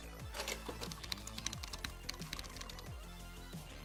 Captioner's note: keyboard clicks